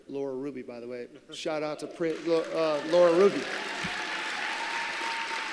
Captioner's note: applause